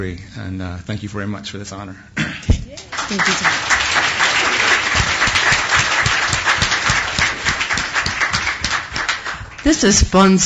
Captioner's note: applause